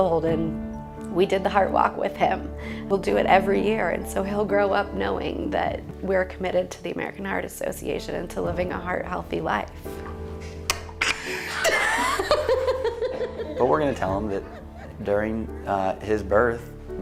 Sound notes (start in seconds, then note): 11.0 laughing